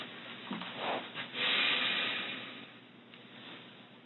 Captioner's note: sighs